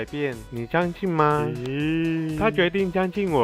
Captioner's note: with a laugh